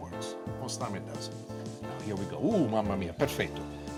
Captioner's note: speaks in foreign language